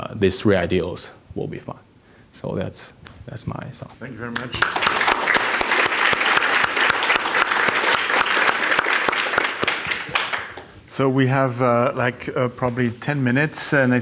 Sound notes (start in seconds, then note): 4.2 audience applauding